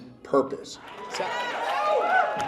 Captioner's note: applause